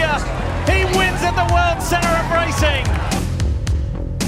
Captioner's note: crew celebrating